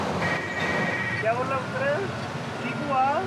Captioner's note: foreign language spoken